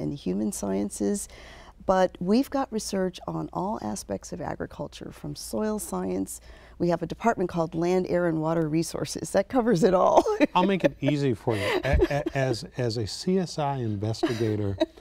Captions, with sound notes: Sciences, but we've got research on all aspects of agriculture from soil science, we have a department called Land, Air and Water Resources, that covers it all (laughs)... >> I'll make it easy for you, as, as, as a CSI investigator